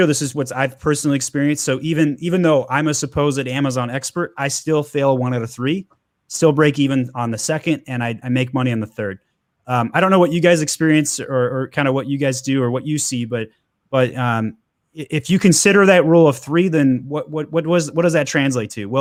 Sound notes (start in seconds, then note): none